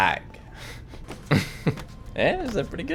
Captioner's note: laughs